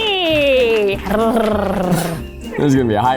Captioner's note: rolls R's